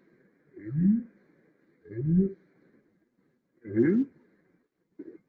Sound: low pitched bubbling and groaning

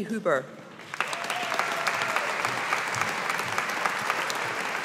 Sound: audience applauding

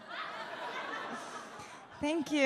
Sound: audience laughs

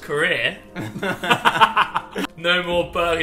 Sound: group laughs

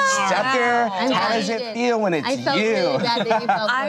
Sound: laughs

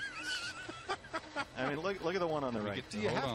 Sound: laughter

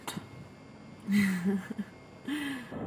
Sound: laughing

